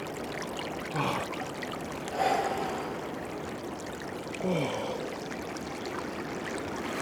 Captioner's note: heavy breathing